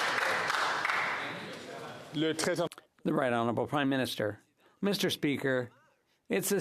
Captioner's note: some Applause